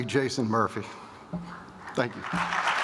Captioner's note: applause